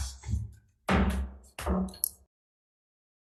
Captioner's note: gavel Pounds